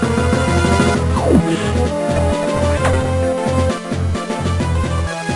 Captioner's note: sigh